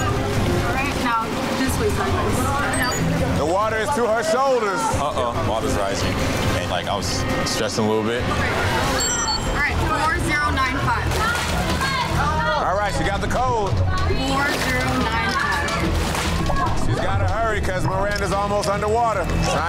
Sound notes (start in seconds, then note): 2.6 digital beeping; 8.9 digital beeping; 16.7 urgent music; 16.7 water gurgling